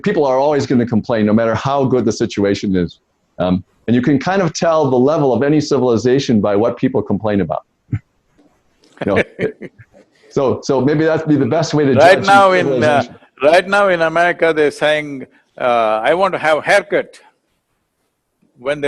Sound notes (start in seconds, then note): 9.0 Sadhguru laughs